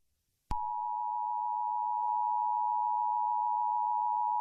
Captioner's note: alarm beeping